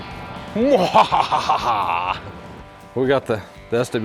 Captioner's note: evil laugh